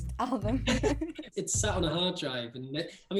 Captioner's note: laugh